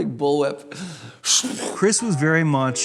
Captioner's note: imitates whip noise